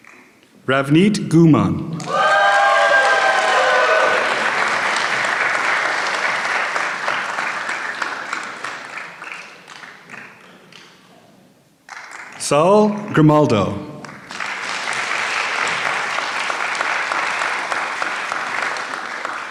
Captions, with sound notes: Ravnit Gumar. (applause) Saul Grimaldo. (applause)